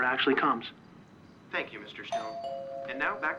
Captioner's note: doorbell ringing